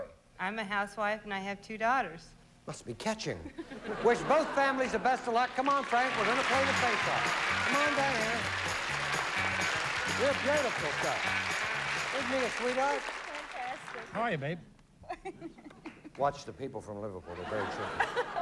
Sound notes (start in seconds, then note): 14.7 laughs